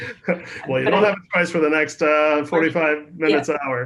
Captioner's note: laughs